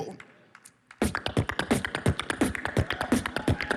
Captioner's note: beatboxing